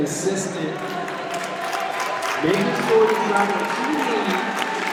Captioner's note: audience applauds